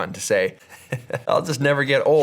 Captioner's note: laughs